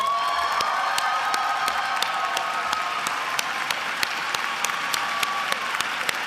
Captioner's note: attendees screaming, applauding and cheering